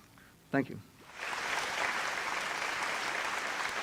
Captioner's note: audience applauding